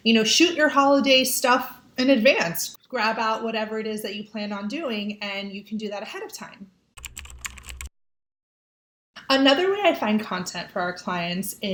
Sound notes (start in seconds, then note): 7.0 keyboard clicking